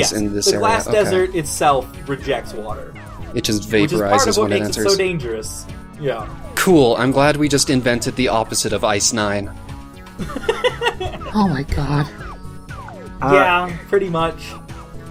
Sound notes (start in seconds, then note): 10.2 gnome laughs